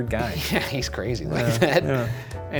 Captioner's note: laughing